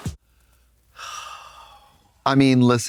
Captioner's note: Katya sighing